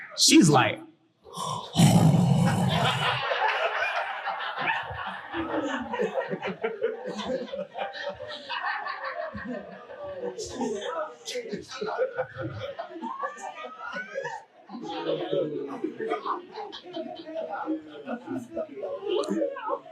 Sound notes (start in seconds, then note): 1.3 heavy breathing; 5.1 audience laughing